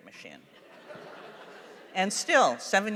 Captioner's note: laughter